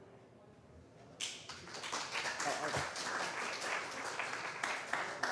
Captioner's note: applause